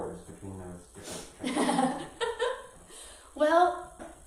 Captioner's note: laughs